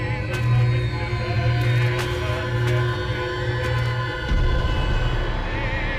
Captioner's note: videotape cassettes clattering; muffled 1920's music; soft intense music